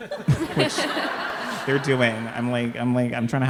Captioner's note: all laughing